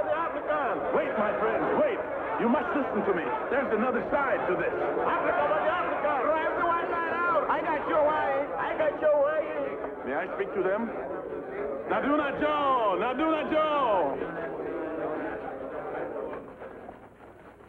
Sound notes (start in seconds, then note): 0.0 crowd clamors; 5.6 crowd clamors; 11.9 speaking in foreign language; 14.5 crowd quiets down